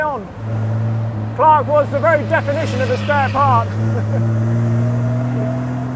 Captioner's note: laughs